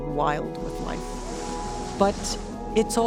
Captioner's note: whoosh of dolphins swimming through ocean